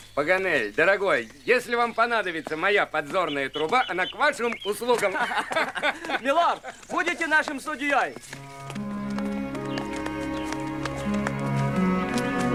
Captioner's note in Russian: смех